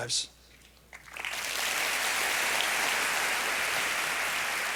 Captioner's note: applause